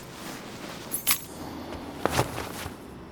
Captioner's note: keys dropping